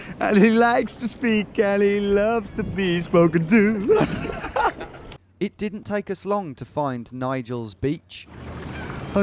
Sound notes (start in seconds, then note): 3.8 both laughing